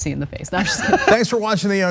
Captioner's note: laugh